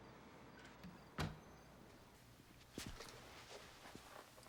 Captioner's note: door thuds